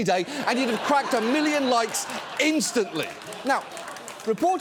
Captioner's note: audience laughs